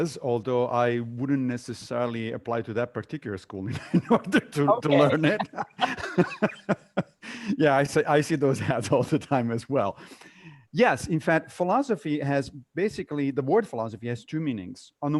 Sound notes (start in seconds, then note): 3.9 laughs